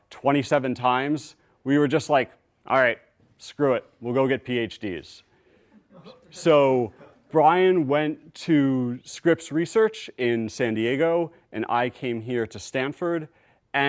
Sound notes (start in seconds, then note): 5.7 laughter